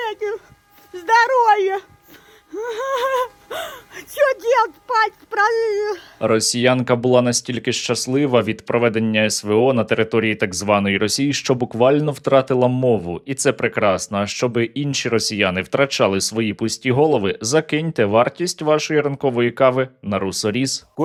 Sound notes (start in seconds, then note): 0.7 says something, cries; 3.8 cries again